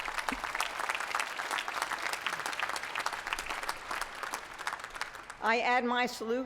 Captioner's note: applause